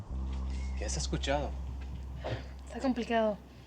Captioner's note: speaking spanish